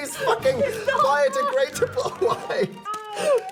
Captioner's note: laughing